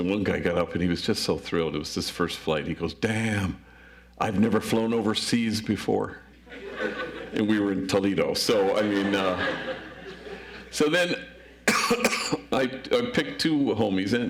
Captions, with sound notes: And one guy got up and he was just so thrilled. It was his first flight. He goes, "Damn, I've never flown overseas before," and we were in Toledo. (audience laughs) So then I picked two homies, and Bobby,